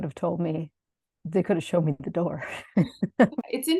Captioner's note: laughs